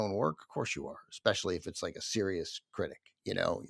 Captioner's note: none